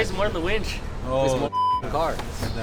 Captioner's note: beep